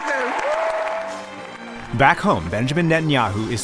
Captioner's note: cheering and applause